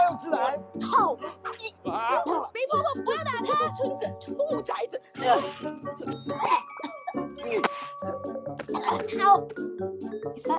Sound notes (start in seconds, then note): 2.1 grunting; 3.0 speaking Mandarin